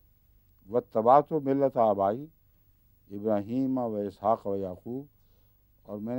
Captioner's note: Arabic